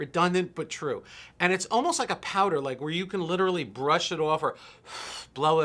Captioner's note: blowing